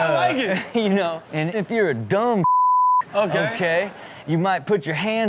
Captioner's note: beep